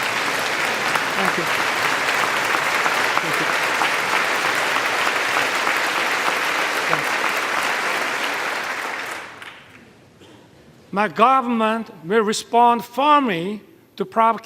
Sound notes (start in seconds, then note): 2.2 applause